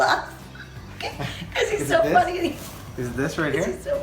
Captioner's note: giggling